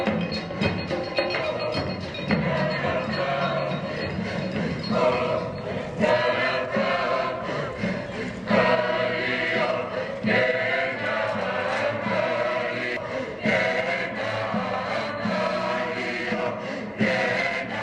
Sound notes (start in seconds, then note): 2.6 chanting